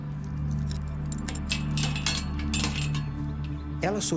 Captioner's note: metallic sound of chains